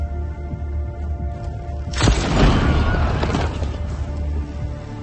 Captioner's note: fire exploding; suspenseful music continues